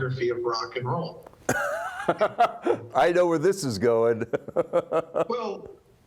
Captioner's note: laughs